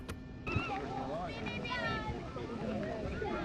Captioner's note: chatter